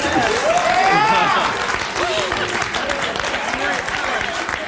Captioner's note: audience applause